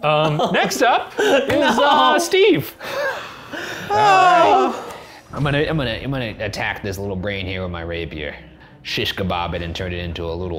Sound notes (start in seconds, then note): 1.1 laughing; 2.8 all sigh